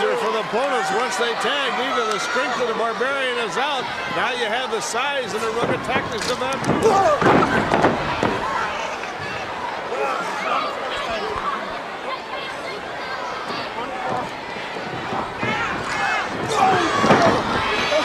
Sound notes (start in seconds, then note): 0.0 crowd chatter; 7.5 crowd chatter; 17.5 crowd cheering